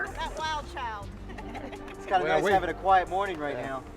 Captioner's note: laughter